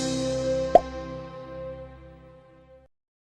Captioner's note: pop